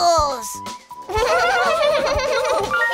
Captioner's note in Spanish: Risas